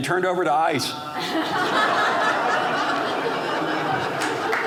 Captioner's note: audience laughing